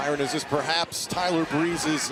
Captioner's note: crowd cheering